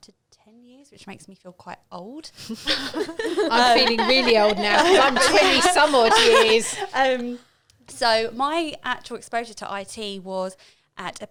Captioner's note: laughing